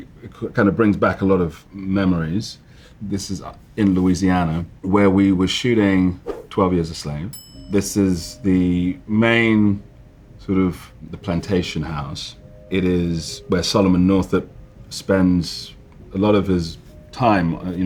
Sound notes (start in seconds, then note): 6.2 slide swipe; 7.3 bell ding